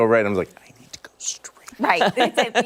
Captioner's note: laughter